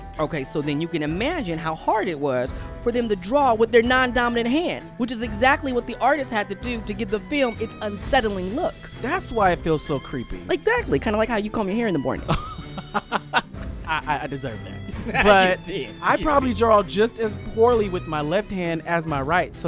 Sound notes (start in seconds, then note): 12.2 laughs